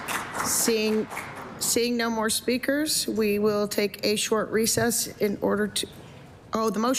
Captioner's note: applause